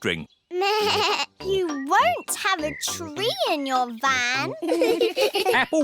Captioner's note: bleats; all giggle